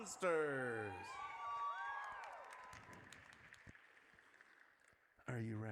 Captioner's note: audience cheers